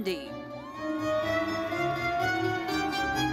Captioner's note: audience cheering; bright lively music continues